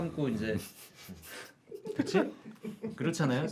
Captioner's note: holding back laughter